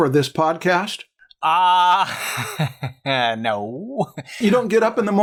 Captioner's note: laughter